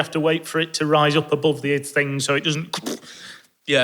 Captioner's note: ker-poof